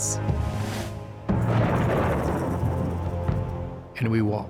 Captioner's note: thunder